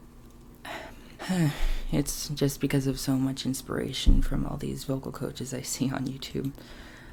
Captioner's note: sigh